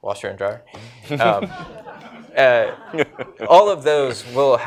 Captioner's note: laughter